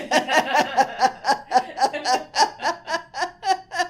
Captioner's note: laughs